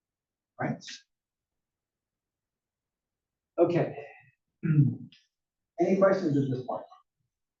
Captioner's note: cough